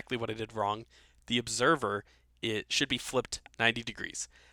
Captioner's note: voiceover